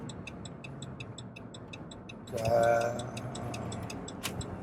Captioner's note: turn signal blinking